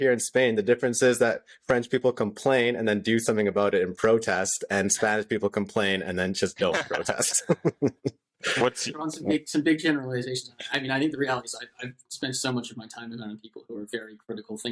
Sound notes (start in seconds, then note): 6.7 laughter